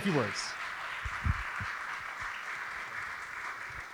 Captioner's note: audience applauding